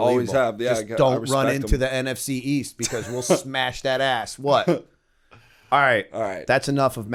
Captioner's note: chuckle